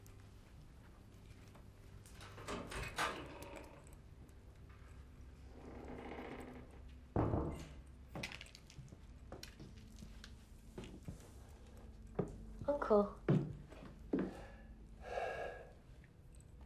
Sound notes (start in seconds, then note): 2.6 doorknob rattles; 5.6 door squeaks; 15.1 Frederick sighs